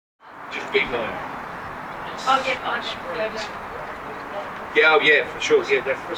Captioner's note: general sound of conversation and good company